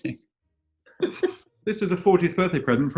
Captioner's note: giggling